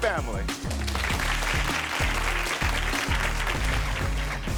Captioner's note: audience claps